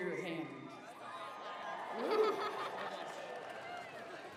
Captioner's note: cheers